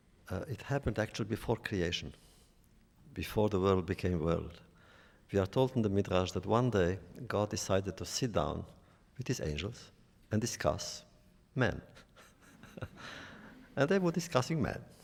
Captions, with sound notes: It happened, actually, before creation, before the world became world. We are taught in the midrash that one day God decided to sit down with his angels and discuss man. (laughs) And they were discussing men.